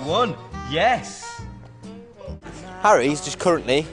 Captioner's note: Drops DS on balls & makes noise of pain